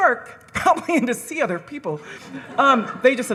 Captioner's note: laughs